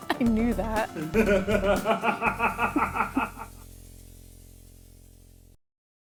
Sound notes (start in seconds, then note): 0.9 laughing